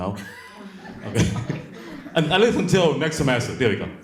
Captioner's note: audience laughs